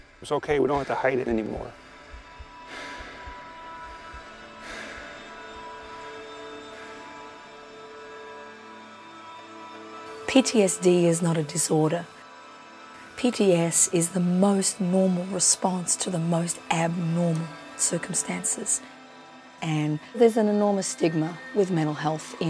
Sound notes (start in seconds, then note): 1.7 heavy breathing; 3.9 uplifting music